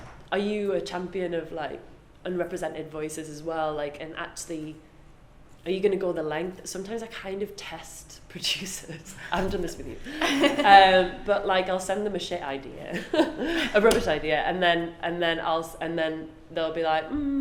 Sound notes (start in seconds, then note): 9.9 laughs